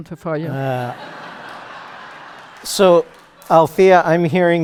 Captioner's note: laughter